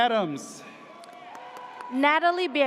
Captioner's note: audience cheers